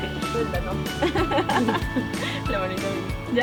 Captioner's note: laughter